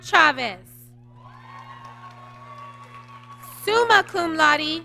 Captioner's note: applause